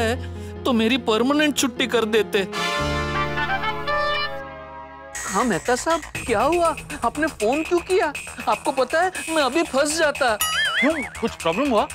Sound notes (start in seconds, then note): 2.6 phone rings